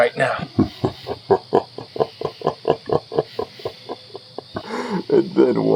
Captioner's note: Huram laughs